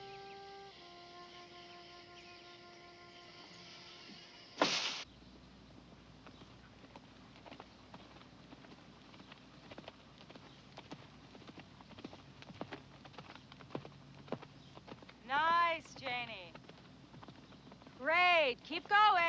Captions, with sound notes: (screen door slamming) - Nice, Janie! Great, keep going!